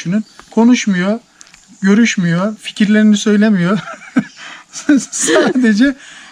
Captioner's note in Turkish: kahkaha